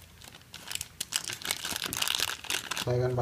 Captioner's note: SFX crackles